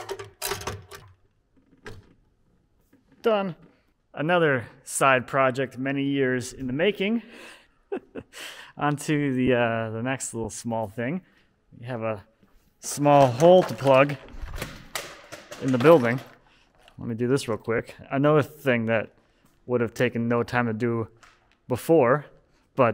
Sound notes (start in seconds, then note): 0.1 metal thudding; 7.8 laughing